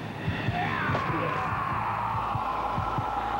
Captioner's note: yelling